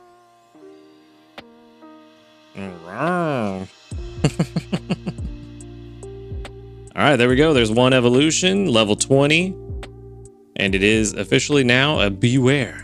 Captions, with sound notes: (upbeat music) All right. (laughs) All right, there we go, there's one evolution, level 20, and it is officially now a beware.